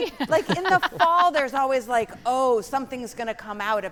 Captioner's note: panelists laughing